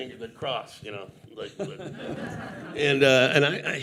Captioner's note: audience laughing